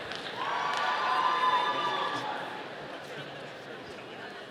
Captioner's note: audience applauding